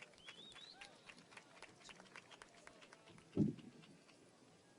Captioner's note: audience applauds